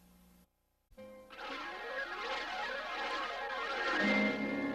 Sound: swirling sounds continuing still

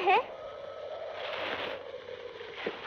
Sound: wind Whooshing

